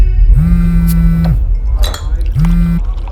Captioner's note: mobile rings